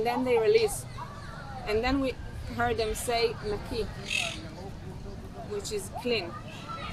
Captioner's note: hebrew